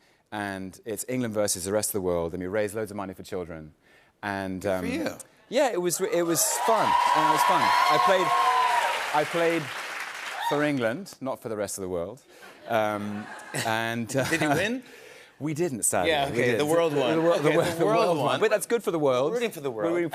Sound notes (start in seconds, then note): 6.2 cheers and applause; 12.7 light laughter